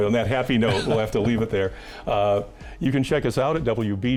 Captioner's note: laughs